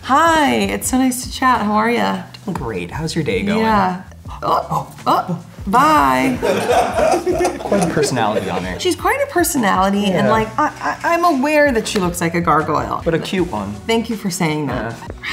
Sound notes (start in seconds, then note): 6.0 group laughing